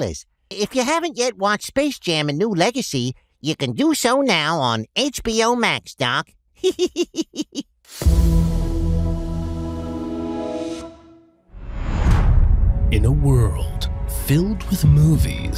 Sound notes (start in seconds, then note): 6.6 chuckles; 7.9 intro plays